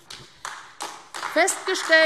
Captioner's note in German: Beifall AfD